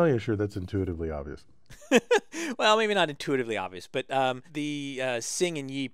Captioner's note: laugh